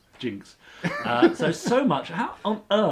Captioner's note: laughs